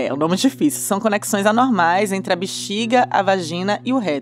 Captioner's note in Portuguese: none